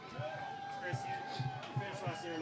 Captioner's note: crowd cheering